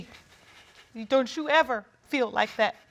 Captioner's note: voice breaks